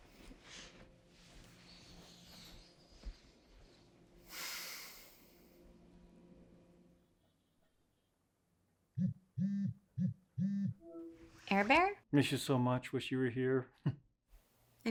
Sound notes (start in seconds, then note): 1.7 Dev inhales; 4.2 Dev exhales; 8.5 cellphone ringing; 13.8 chuckles